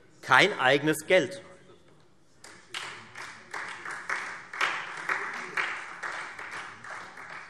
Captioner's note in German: Beifall Freie Demokraten und SPD